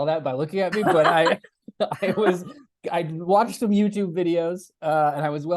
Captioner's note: laughter